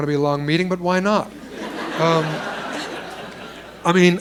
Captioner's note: laughter